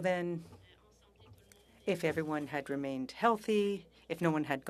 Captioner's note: speaking French